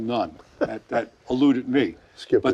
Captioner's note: laughing